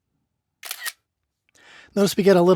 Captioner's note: camera snaps